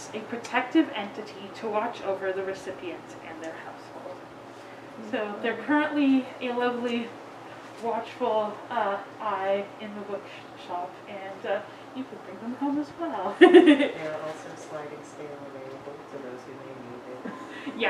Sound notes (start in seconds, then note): 13.3 giggles